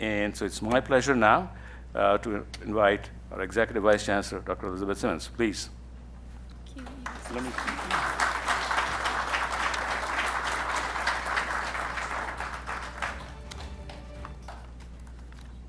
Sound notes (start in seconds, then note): 6.7 speaking faintly; 8.5 attendees applauding; 13.0 upbeat music